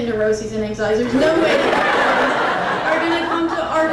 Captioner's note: crowd laughing continues